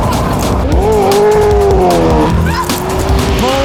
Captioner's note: engine roars; both exclaim